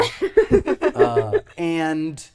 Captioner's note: both laughing